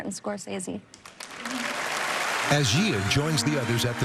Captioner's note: cheering and applause